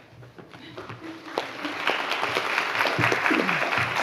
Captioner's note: applause